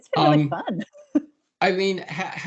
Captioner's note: chuckling